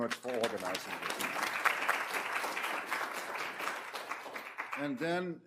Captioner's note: applause